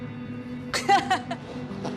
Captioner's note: laughs